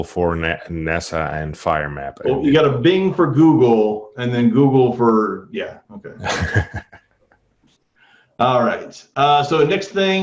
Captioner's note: laughter